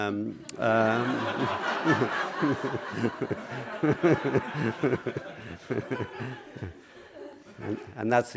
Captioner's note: laughter